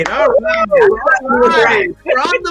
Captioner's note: claps hands